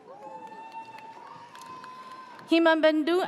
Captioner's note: audience cheers